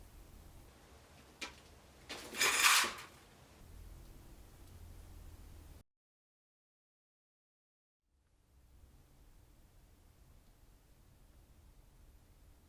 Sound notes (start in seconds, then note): 1.9 chain rattles